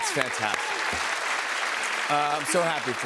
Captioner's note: applause